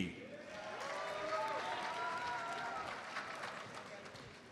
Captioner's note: audience applauds